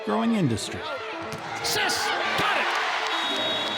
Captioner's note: audience cheers